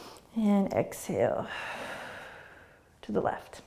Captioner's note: exhaling